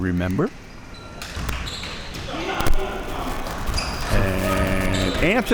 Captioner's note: audience applauding